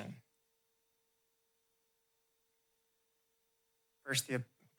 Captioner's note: pause